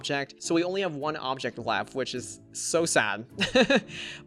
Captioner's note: laughs